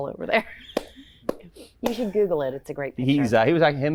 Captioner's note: clapping